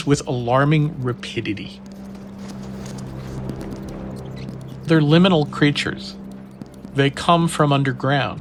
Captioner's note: soundbite of rats squeaking